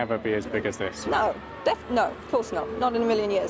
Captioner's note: people screaming